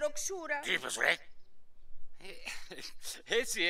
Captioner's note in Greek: χαμηλόφωνα